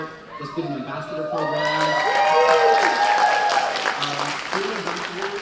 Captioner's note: cheers and applause